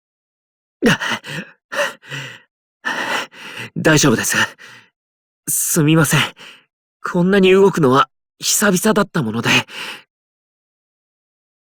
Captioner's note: panting